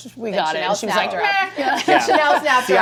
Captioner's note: laughs